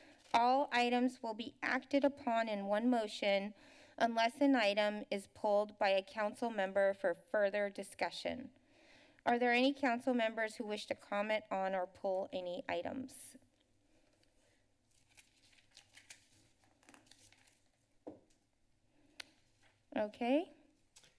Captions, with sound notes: All items will be acted upon in one motion unless an item is pulled by a council member for further discussion. Are there any council members who wish to comment on or pull any items? [silence] Okay.